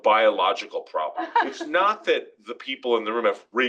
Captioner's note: laugh